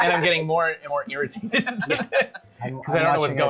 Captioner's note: laughter